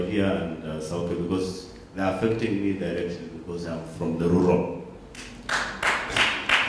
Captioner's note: applause